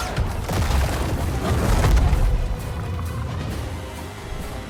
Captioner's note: tense music; rocks crashing